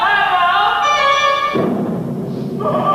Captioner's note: boom!; frightened sounds